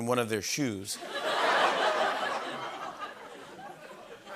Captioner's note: laughter